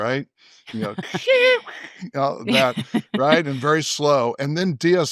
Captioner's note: vocalizes